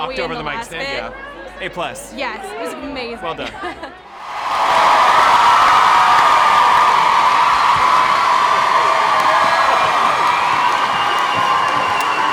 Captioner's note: cheering